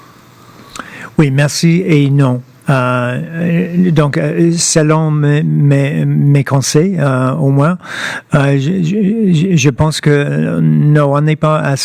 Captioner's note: speaking french